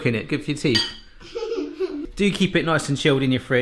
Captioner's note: giggling